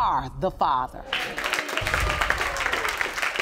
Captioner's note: audience applauding